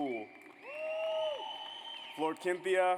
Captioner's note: audience cheers